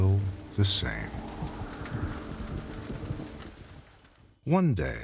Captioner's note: rain pouring; wind blowing